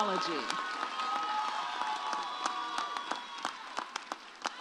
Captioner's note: audience cheers